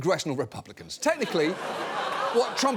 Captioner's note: audience laughing